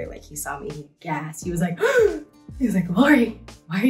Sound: Lori gasping

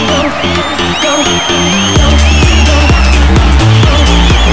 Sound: all cheering, whistling

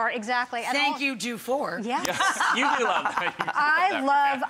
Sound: chuckles

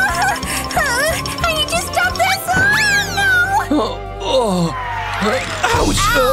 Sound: groans

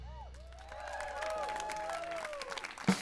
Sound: applause

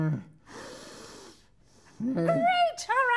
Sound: deep breathing

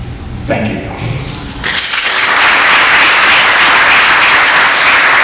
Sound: audience claps

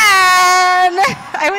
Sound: laughs

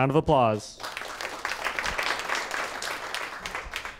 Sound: applause

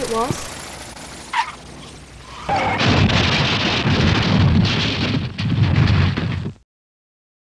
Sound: screeching sound of a crash

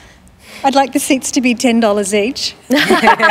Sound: laughter

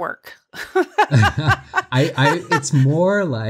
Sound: both laughs

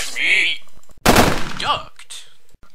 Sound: gunshots

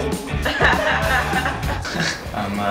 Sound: laughter

